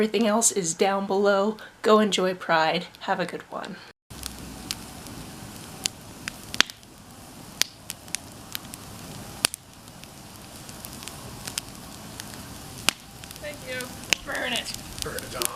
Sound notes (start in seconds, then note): 4.1 fire crackling